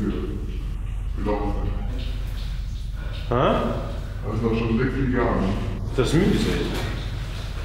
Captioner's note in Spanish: hablando en luxemburgués